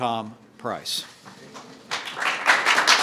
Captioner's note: applause